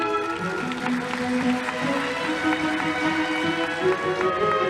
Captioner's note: audience applauding